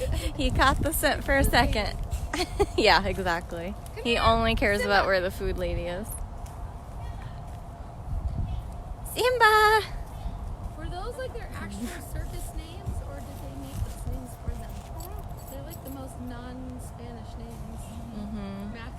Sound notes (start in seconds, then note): 11.0 chatter